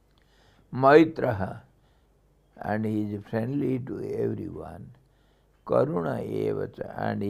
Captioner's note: sanskrit